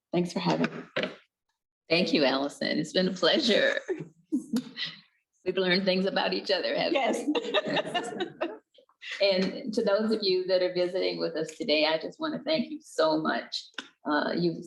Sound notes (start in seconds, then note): 3.5 both chuckles; 7.0 excitingly laughs